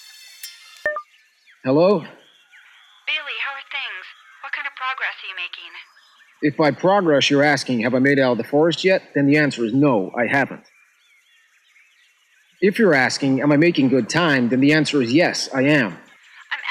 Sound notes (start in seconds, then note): 0.8 cellphone beeps